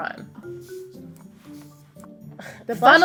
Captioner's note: spraying